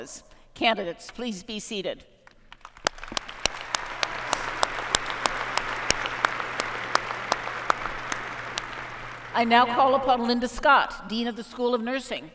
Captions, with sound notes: Candidates please be seated. [ Applause ] I now call upon Linda Scott, Dean of the School of Nursing.